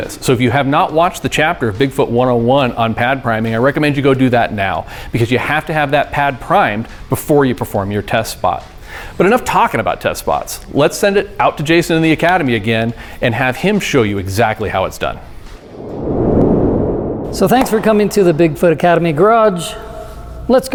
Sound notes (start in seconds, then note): 15.5 air whooshing